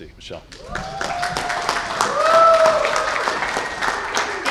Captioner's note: cheers and applause